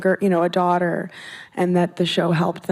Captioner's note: none